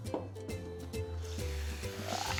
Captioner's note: melodic music; sizzling